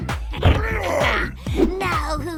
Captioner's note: Mon-Gor growls